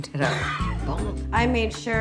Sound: Lucifer laughing

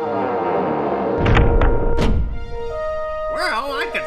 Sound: doors creaking

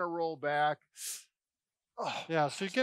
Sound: exhales with grunt

